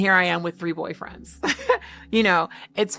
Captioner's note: chuckling